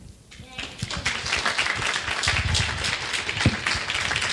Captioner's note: clapping